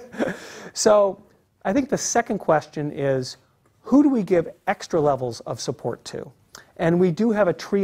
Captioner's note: laugh